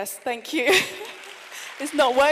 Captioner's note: applause